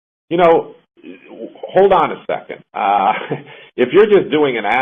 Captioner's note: laughs